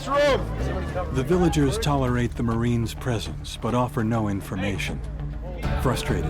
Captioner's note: voiceover